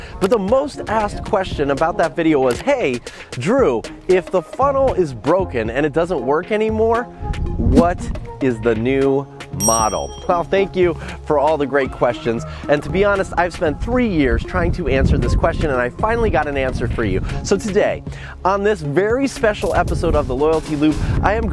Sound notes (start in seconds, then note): 9.6 ding